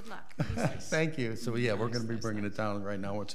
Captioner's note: laughs